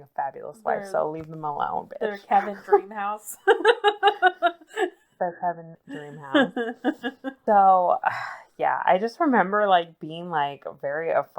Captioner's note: laughs